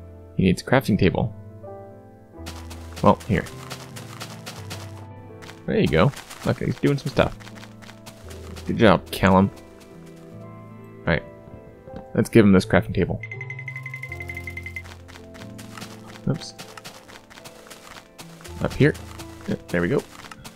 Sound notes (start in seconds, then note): 5.3 digging